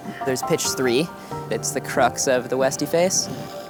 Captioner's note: wind hissing